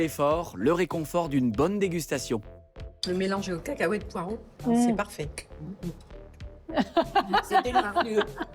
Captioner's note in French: rires